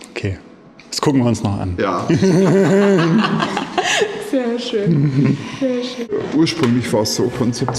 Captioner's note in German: gelächter